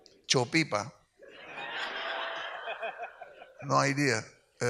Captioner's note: audience laughs